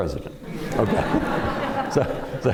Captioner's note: laughter